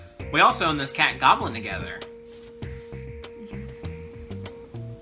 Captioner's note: chuckles